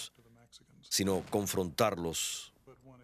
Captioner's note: explosion